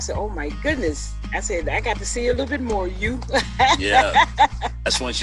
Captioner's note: laughs